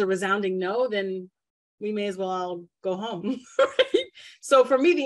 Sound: giggles

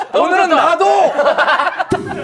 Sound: laughing

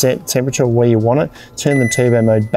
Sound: control panel dings

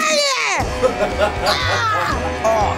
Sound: laughing

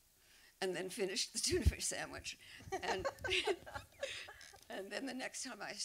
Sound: laughter

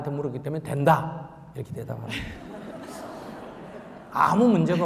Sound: questioner/Audience Laughter

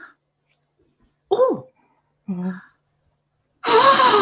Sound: laughing

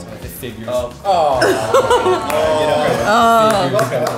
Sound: group laughing

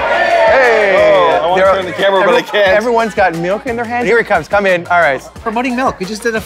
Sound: applause

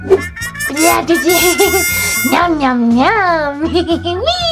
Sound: Jack-Jack blabbers

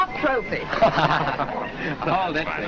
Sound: laughter

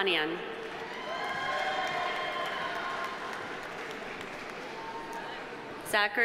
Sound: audience applauding; audience cheering

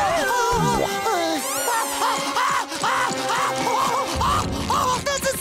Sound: groaning; screaming

